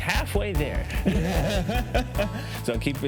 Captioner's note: laughs